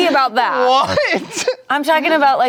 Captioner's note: laughs